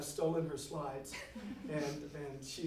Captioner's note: audience laughs